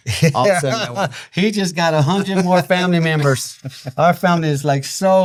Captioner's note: laughing